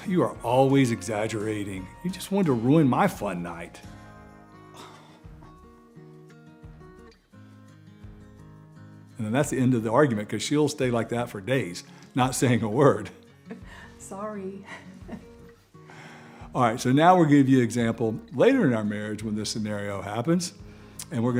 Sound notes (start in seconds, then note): 4.8 scoffs; 14.6 giggles